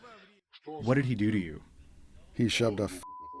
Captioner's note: through translator